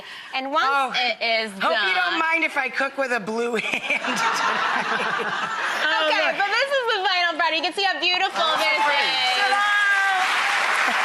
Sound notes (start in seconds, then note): 3.6 audience laughing; 10.8 audience applause